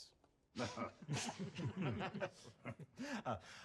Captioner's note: chuckles